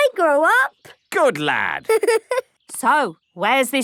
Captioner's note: giggling